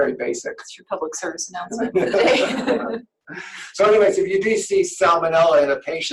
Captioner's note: laughter